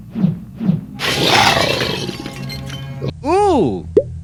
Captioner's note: rapid whooshing; monster snarls; glass shatters